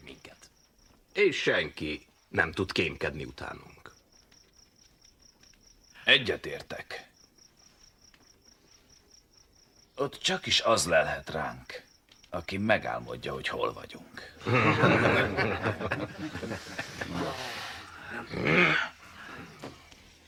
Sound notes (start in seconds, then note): 16.0 laughter